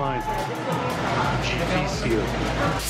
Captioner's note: in Portuguese